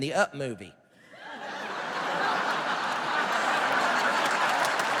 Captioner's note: laughter